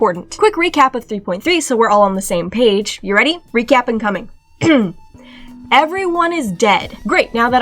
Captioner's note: ahem